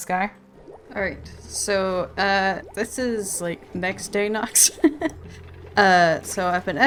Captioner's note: laughs